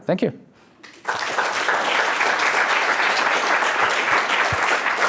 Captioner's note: audience applauding